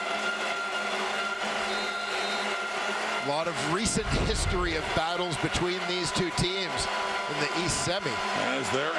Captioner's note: crowd Noise